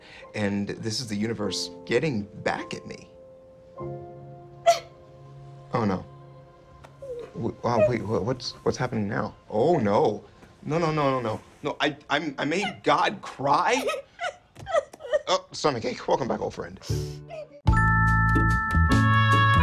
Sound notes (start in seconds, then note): 4.6 cries; 7.0 whimpers; 13.7 crying